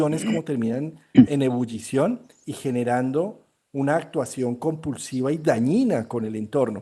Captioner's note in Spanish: carraspeo